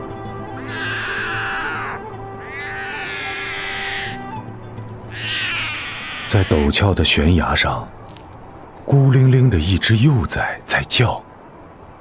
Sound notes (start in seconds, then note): 0.7 the calls of the snow leopard cub